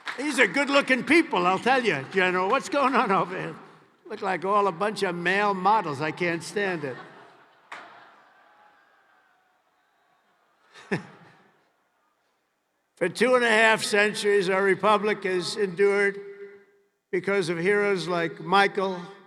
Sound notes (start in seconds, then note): 10.9 laughs